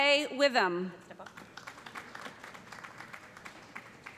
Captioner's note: applause